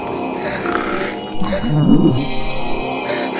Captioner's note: demon snarls